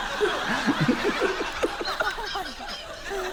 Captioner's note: continues laughing